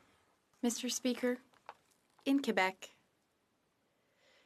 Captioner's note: speaking in French